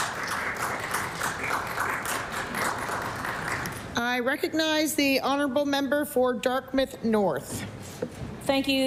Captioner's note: applause